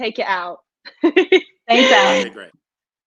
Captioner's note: laughing